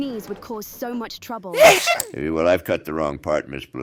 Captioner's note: Katy sneezes